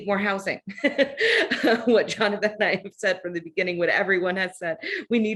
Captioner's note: chuckles